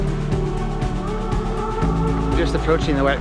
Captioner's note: footsteps